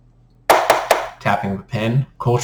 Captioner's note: pen taps